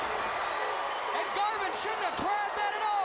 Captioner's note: crowd cheering